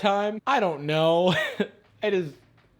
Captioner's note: laughing